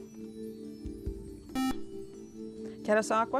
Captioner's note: buzzer